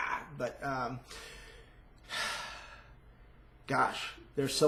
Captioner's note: sighs